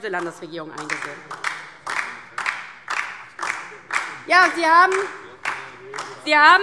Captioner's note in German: Beifall DIE LINKE